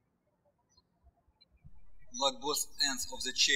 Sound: birds chirping

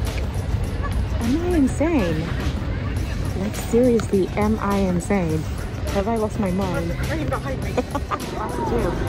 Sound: laughs

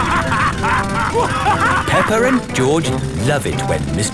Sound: both laughing; drilling

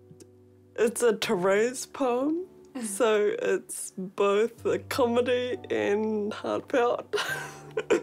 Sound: laughs

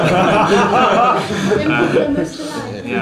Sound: laughter

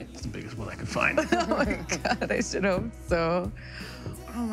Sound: laughing

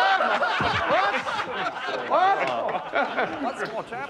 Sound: laughter

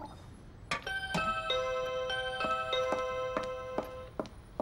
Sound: doorbell ringing

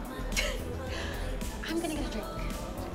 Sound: laughs

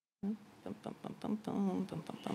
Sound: humming

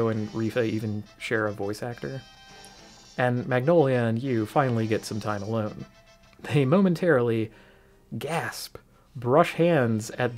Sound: gasp

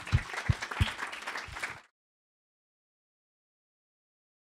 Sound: audience applauds

